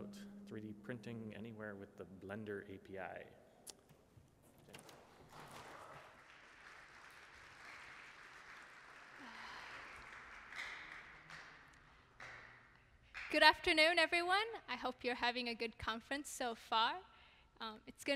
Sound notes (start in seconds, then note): 5.2 applause